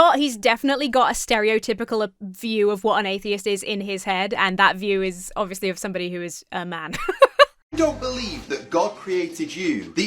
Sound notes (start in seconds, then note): 6.9 laughs